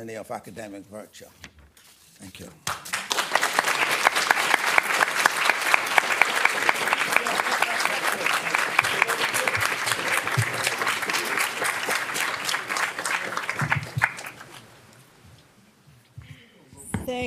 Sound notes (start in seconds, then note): 2.6 audience clapping